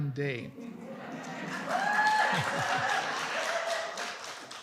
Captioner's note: applause